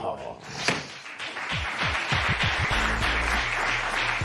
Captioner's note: applause